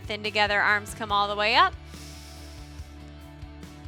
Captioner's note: inhales